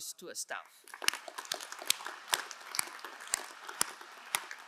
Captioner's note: crowd applauding